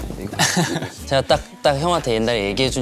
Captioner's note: haha